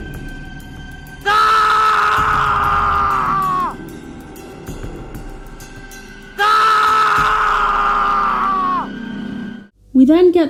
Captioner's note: repeating stock scream sound effect